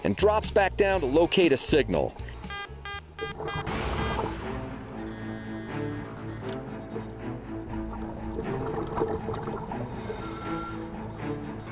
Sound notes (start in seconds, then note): 2.4 beeping; 3.2 suspenseful orchestral music; 8.8 water gurgling